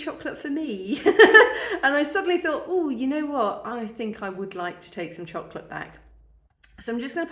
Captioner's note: laughing